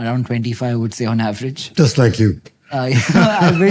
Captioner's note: chuckles